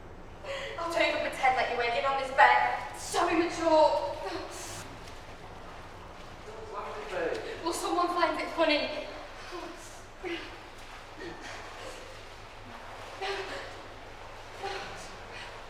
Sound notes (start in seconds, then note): 11.3 Tilly crying